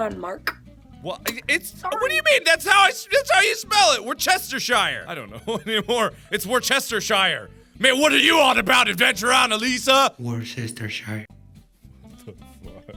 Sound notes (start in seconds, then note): 10.4 echoing